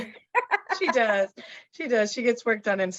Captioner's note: laughs